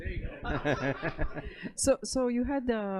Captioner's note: laughter